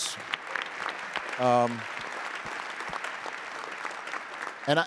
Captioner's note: attendees applauding